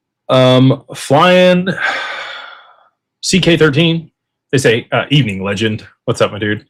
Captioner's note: sighs and gasps